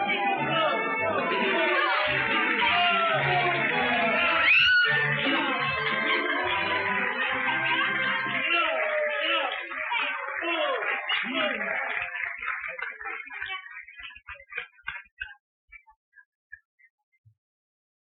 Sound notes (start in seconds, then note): 6.4 booing, shouting, applause